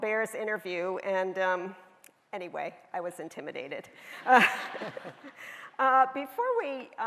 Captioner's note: laughs